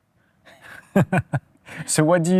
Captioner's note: laughs